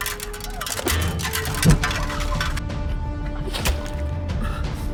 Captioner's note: suit clanking